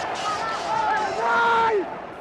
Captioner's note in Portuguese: Homem grita